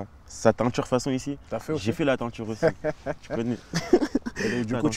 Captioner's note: laughs